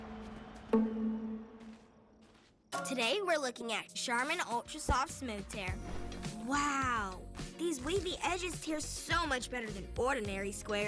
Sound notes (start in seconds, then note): 0.0 footsteps